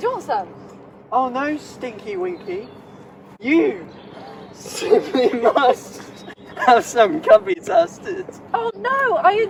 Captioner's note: slurring